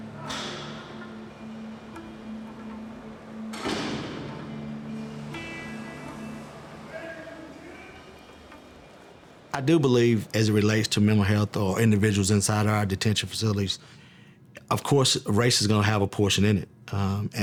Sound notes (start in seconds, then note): 0.3 lock clicks, cell door opens in distance; 3.5 cell door closes in distance; 6.8 man yells in the distance